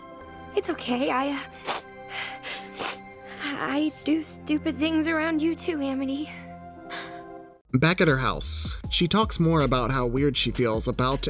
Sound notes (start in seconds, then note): 2.1 sniffles; 6.9 gasps